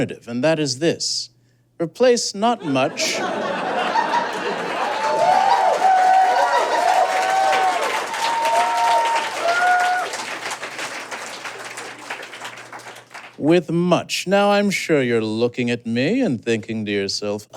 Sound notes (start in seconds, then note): 3.4 audience laughs and applauds; 6.0 audience cheers